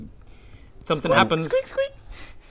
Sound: squeak squeak

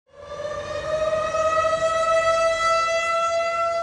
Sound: siren blaring

